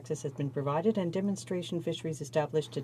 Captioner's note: speaking French